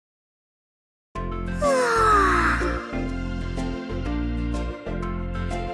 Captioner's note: yawn